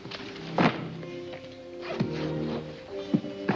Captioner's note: book thumps down; ominous music